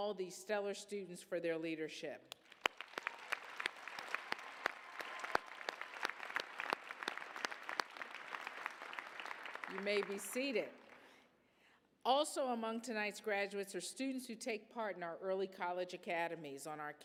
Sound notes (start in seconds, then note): 2.4 applause, cheers